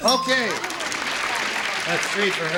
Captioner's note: applause